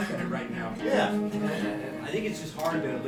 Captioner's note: group laughing